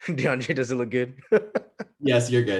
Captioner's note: laughs